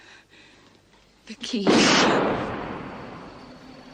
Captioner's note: gunshot